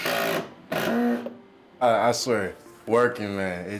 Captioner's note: drill whirring